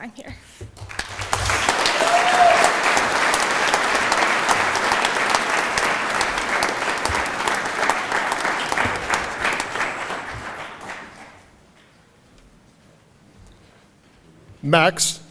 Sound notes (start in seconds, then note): 4.0 applause